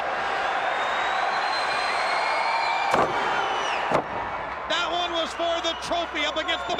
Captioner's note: crowd cheering